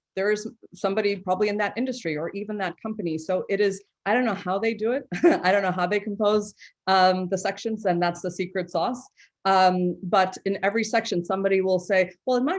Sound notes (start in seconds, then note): 5.3 chuckles